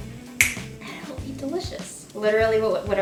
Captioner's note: snaps